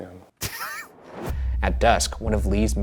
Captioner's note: Ryan laughs